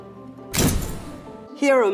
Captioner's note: thunk